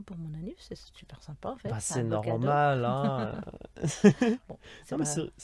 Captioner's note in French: Rires